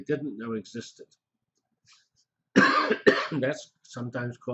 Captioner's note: pause